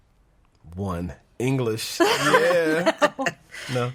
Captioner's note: laughing